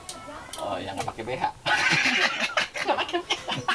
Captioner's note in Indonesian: ketawa monyet